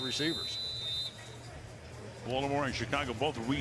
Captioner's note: whistle blows